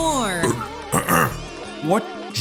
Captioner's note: clears throat